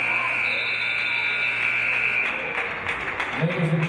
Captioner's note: buzzer; referee's whistle